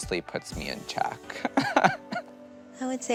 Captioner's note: laughs